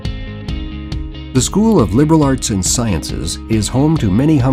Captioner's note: voiceover